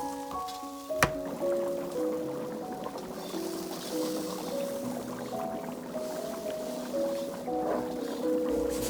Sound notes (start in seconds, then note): 2.3 bubbling